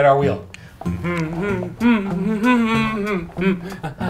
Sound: hums

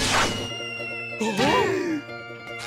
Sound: gasping

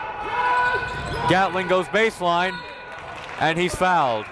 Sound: whistle

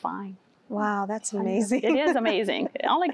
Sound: giggling

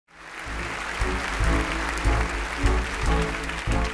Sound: crowd applauding

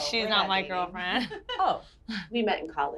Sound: laughter

